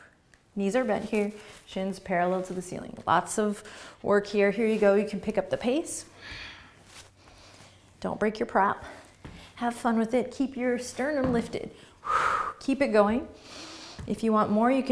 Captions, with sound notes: Knees are bent here. Shins parallel to the ceiling. Lots of work here. Here you go. You can pick up the pace. (breathing) Don't break your prop. Have fun with it. Keep your sternum lifted. (exhaling breath) Keep it going. If you want more,